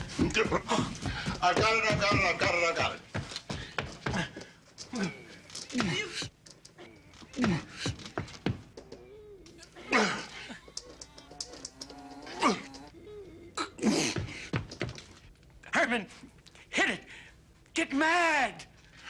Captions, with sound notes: l've got it. l've got it. l've got it. [Grunting] [Groans] Herman, hit it. Get mad!